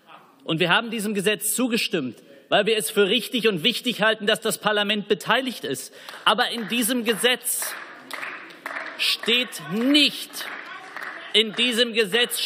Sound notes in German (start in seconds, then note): 6.0 Beifall